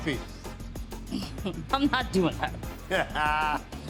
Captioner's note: chuckles; Buddy laughs